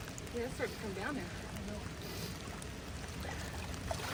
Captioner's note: rain